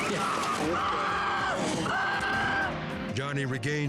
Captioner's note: racer screams